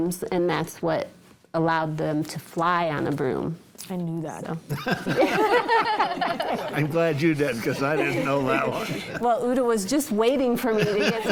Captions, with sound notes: and that's what allowed them to fly on a broom. - I knew that. (panel laughing) - I'm glad you didn't 'cause I didn't know that one. - Well, Uta was just waiting for me to get